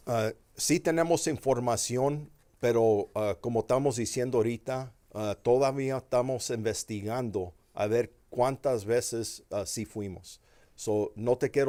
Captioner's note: speaking Spanish